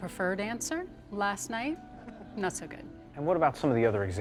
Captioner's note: people laugh